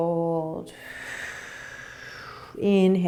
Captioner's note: exhaling